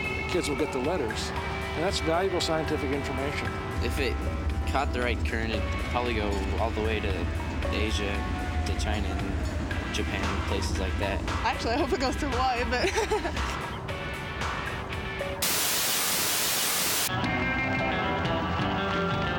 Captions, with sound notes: THE KIDS WILL GET THE LETTERS. AND THAT'S VALUABLE SCIENTIFIC INFORMATION. IF IT CAUGHT THE RIGHT CURRENT, IT COULD PROBABLY GO ALL THE WAY TO ASIA, TO CHINA AND JAPAN AND PLACES LIKE THAT. ACTUALLY I HOPE IT GOES TO HAWAII. [ LAUGHS ] [ SURF MUSIC PLAYS ]